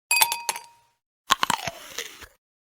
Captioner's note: ice clinking in glass; bite sound